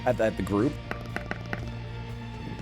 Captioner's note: tapping